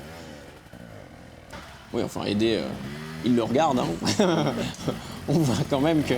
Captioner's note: laughs